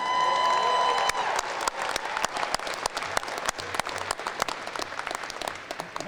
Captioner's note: applause